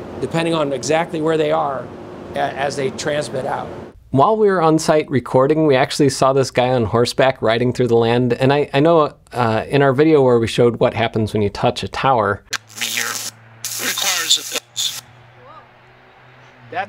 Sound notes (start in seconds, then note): 12.5 static crackling; 12.6 talking hot dog noises